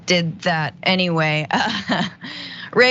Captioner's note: laugh